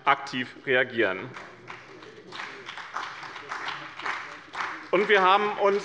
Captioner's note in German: Beifall bei der CDU und dem BÜNDNIS 90/DIE GRÜNEN